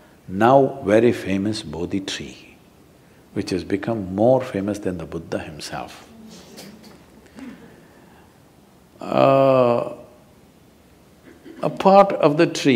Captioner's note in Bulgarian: смее се